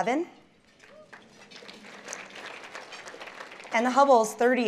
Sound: applause

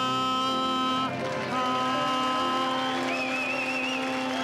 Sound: audience cheering

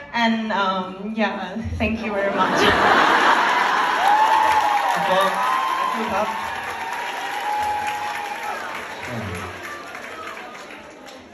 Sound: ปรบมือ

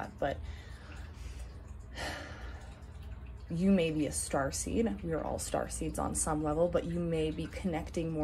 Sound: deep breath

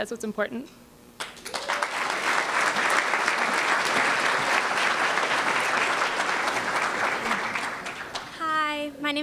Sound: applause

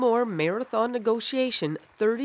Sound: applause

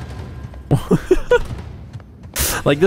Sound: laughs

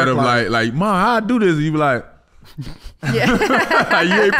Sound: Amber laughing

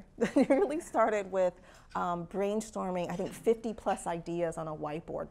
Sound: laugh

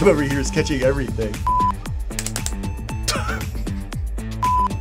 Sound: beeping; laughing

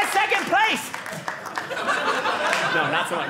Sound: audience laughing

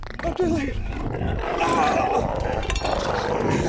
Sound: excruciating moaning

